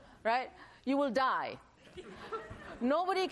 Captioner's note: laughter